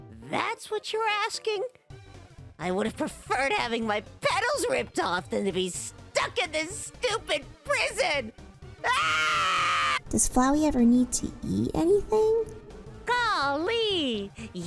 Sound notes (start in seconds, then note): 3.0 yelling